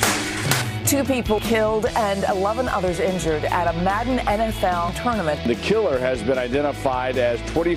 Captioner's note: gunfire